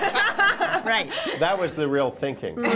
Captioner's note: laughter